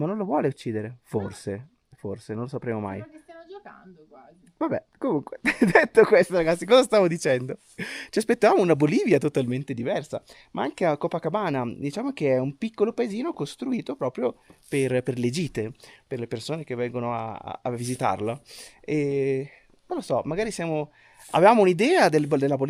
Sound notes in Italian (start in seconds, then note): 5.4 risate